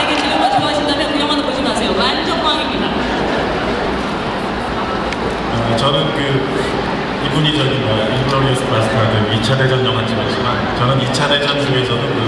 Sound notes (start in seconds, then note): 0.0 audience laughing; 0.3 speaking Korean; 6.4 speaking Korean